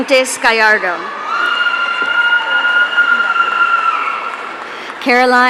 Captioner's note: audience cheering